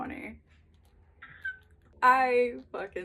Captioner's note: happy squeal